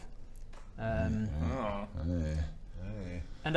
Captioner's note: concerned noises